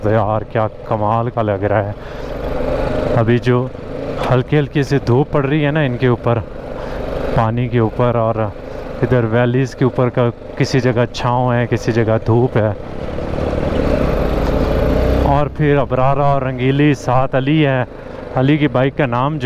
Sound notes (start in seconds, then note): 16.6 motorcycle